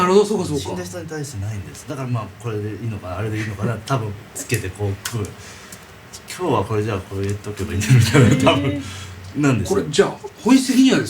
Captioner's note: laughs